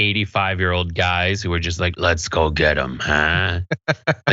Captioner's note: laugh